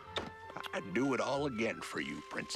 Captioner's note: smooch